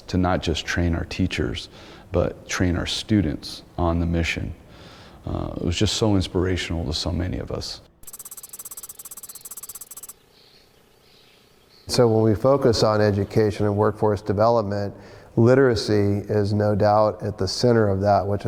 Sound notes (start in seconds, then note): 8.0 keyboard tapping